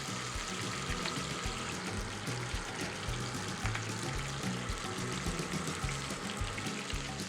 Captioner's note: fritters sizzling in the pan